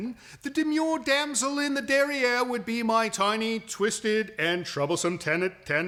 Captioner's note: none